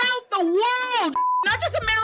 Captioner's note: beep